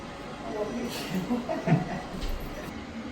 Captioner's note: laughing